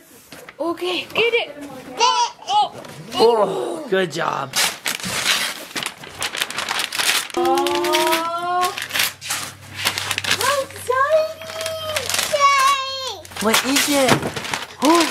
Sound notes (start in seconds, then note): 5.1 paper ripping